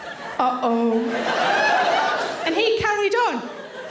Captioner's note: audience laughing